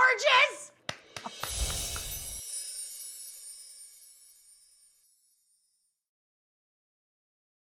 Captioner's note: Rachael clapping; chiming